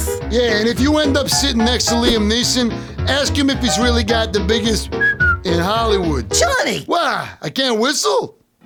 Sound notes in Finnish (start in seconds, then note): 4.8 vihellys